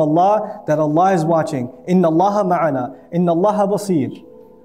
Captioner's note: Arabic